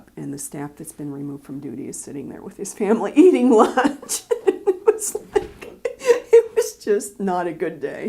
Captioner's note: laughter